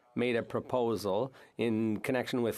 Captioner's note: speaking French